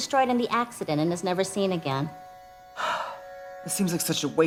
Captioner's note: sighs